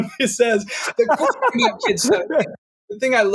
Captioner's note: laughing